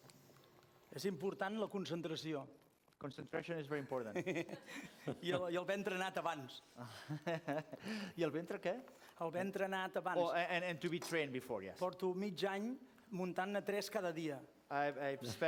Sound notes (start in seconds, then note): 4.1 laughs; 6.4 non-english speech; 12.6 non-english speech